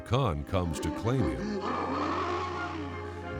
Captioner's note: growling